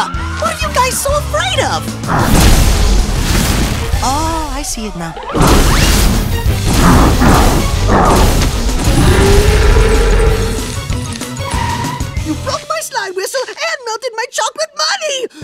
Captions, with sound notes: What are you guys so afraid of? Oh, I see it now. [crashing] [roaring] You broke my slime whistle and melted my chocolate money!